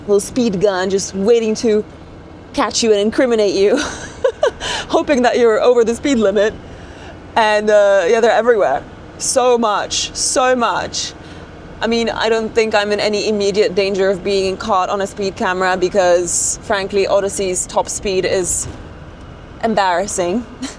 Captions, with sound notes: little speed gun just waiting to catch you and incriminate you, (laughs) hoping that you're over the speed limit. And yeah, they're everywhere. So much. So much. I mean, I don't think I'm in any immediate danger of being caught on a speed camera because, frankly, Odyssey's top speed is embarrassing.